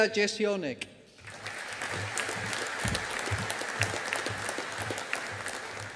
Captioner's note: audience applauding